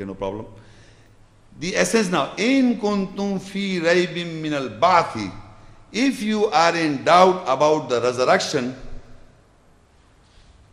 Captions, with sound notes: okay no problem the essence now (Arabic) if you are in doubt about the resurrection,